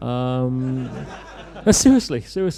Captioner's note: laughter